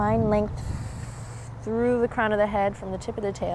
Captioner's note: takes deep breath